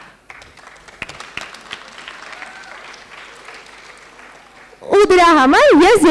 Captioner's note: applause